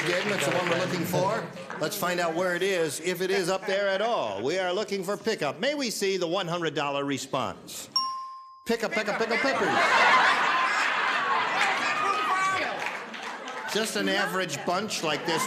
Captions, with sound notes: Let's find out where it is, if it is up there at all. We are looking for pickup. May be see the $100 response? (bell dings) Pick a peck of pickled peppers. (laughter) Just an average bunch like this one out here.